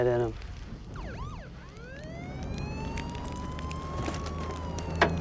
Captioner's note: siren wailing